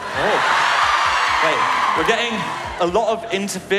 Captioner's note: lesbians cheer